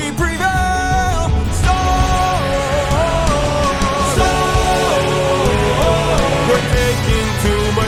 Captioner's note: storm